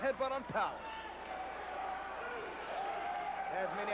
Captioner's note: crowd cheering